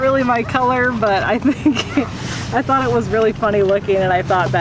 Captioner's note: laughing